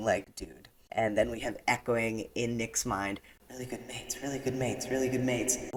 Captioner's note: echo